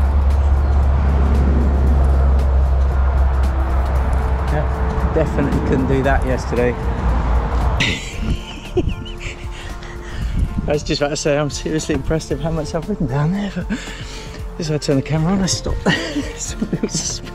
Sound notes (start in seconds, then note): 7.8 laughs